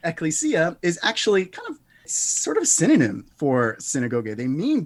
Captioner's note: speaks Greek